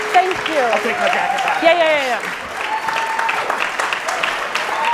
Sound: audience cheering

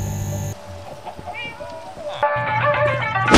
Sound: chickens clucking, cats meowing

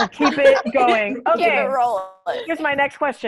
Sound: laughter

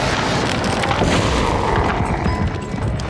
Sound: smash; Appa growls

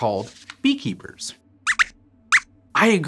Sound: squeaks squeaks

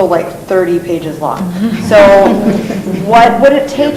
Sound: laughing

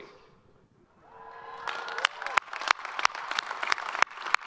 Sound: all applaud

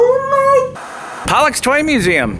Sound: static hissing

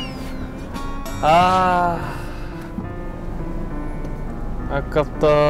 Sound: sigh

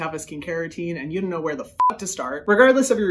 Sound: beep

